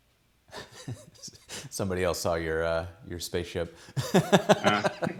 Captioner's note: laughs; both laughing